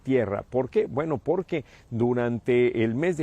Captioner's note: HABLAN EN INGLéS